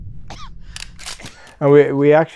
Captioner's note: click